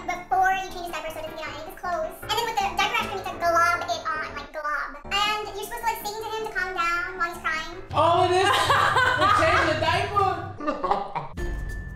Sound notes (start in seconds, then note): 10.5 woman laughs